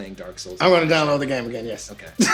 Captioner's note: laughs